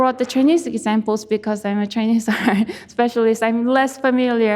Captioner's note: laughs